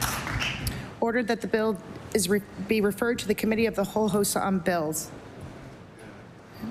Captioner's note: applause